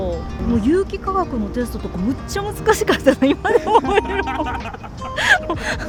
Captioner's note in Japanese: 笑い